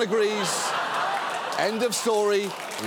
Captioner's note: studio audience laughs